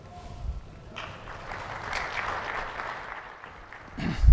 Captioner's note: applause